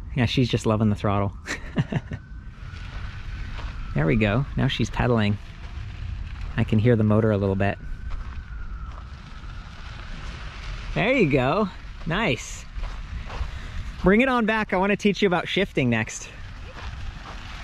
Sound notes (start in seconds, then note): 1.5 laughs; 5.7 bike motor whirring; 8.2 gravel crunching